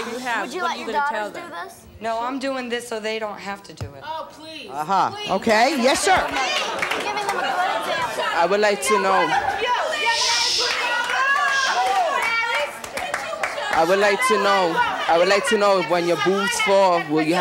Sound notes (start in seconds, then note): 9.4 audience yelling; 11.1 women yelling